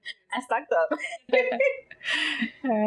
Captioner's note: chuckles